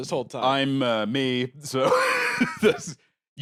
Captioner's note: laughs